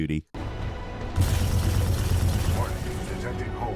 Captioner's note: intense dramatic music; guns blasting; comms radio chatters